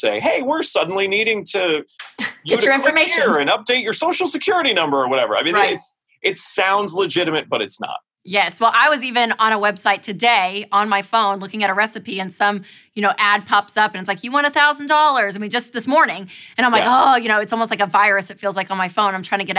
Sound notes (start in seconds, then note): 16.7 groans